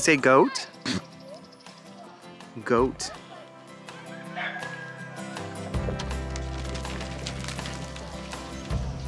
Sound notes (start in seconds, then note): 4.1 rooster crow; 5.9 soft country music